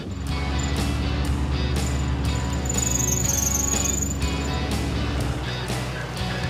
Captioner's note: engine roaring; soft music